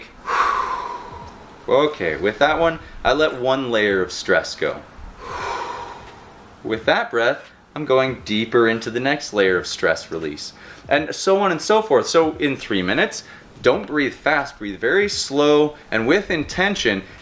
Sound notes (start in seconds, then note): 0.2 exhales